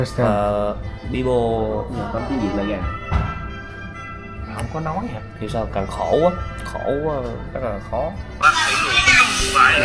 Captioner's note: Vietnamese